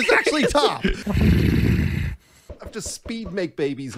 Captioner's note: grumbling